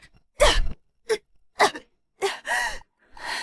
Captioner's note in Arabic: سعال